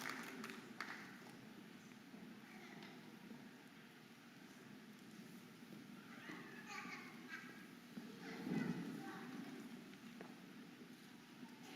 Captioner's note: audience applauding and cheering